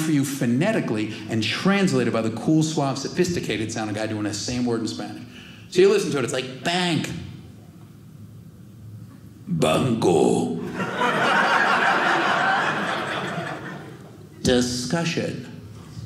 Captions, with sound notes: phonetically and translated by the cool, suave, sophisticated sounding guy doing the same word in Spanish. So you listen to it, it's like bank. "Banco." (audience laughing) Discussion.